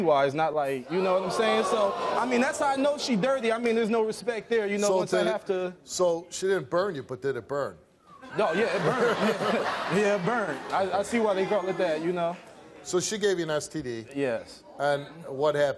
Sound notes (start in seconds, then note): 8.3 audience laughs